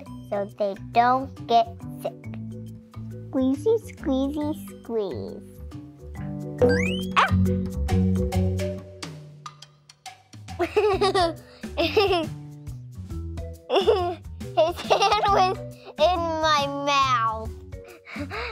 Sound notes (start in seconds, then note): 6.6 gasps; 6.6 spring boings; 10.6 laughs